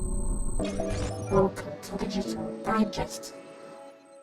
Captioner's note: robotic voice